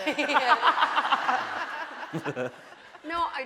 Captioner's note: laughing